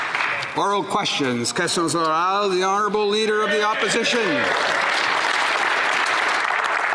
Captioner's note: applause